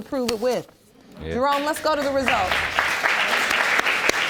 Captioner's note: audience applauding